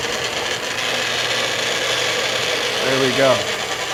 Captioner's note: food processor buzzing